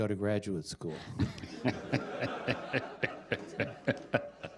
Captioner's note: laughter